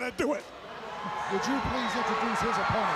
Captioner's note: crowd chatter